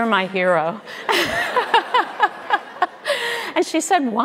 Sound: audience laughing; laughing

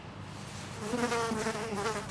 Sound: fly buzzing

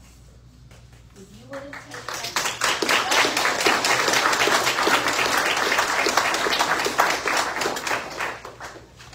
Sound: audience applauds

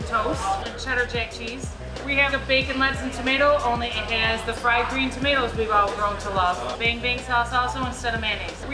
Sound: none

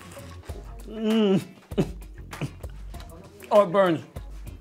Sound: coughs

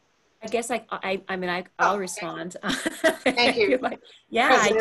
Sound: laughter

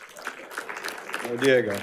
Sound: audience applauding

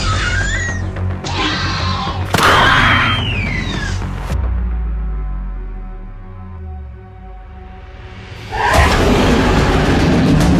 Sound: raptor Sounds

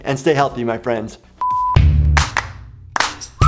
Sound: beeping

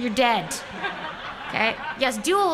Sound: laughter

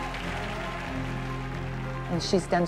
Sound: applause

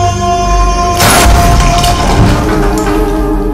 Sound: gunshot

